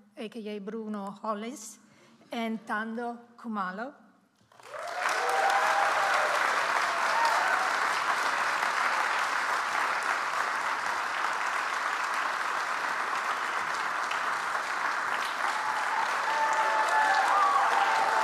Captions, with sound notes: aka Bruno Hollis and Thando Khumalo. (audience applauds)